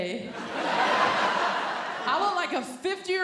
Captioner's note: audience laughing